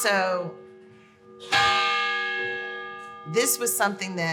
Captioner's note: clocktower bell sounds